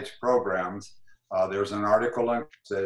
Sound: glitch

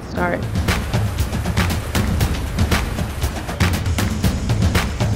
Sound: machinery whirring

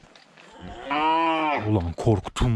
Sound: moo!

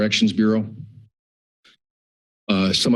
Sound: pause

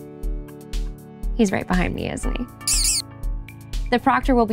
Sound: the sloth squeaks

